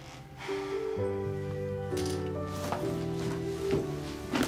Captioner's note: sighs